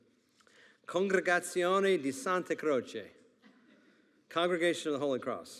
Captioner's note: speaking in Italian